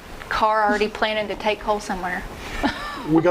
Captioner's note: chuckling